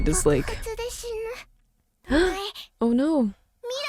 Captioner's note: foreign language; foreign language